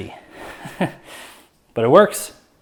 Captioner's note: chuckles